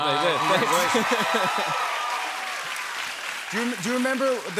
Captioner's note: cheers and applause